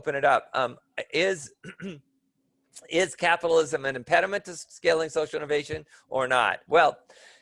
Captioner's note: cough